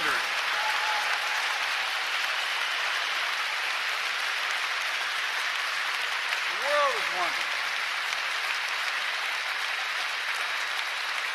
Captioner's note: applause